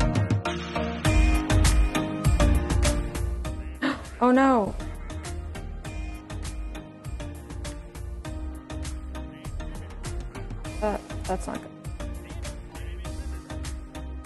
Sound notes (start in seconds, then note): 3.8 gasps